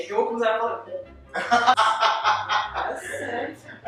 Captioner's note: laughs